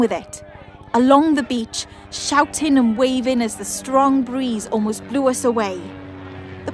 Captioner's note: helicopter passes